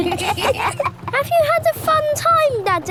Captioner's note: kids giggling